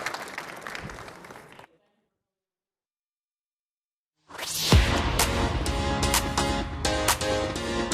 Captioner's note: applause